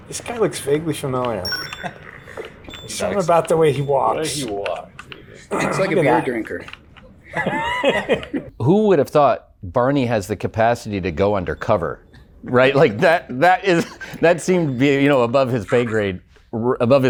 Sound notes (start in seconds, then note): 7.2 laughs